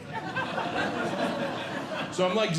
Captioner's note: audience Laughing